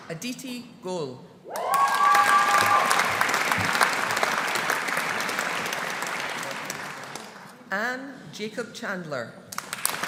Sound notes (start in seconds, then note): 1.5 audience cheering; 1.5 audience applauding